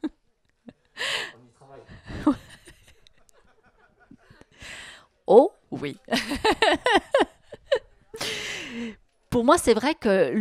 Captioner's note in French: ils rient